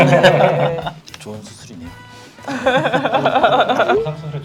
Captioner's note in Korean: 웃음